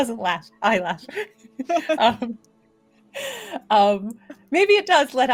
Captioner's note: laughing